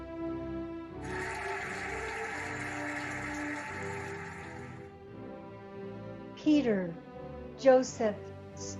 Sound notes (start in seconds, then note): 1.0 cheering and applauding